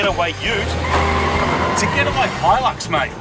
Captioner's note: skkrrtttt